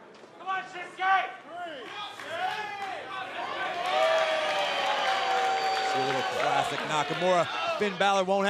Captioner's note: cheers and applause